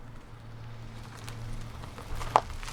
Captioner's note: approaching car